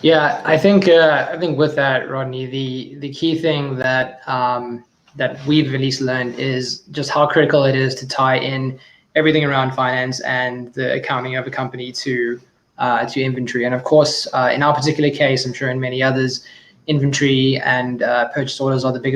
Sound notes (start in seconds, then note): none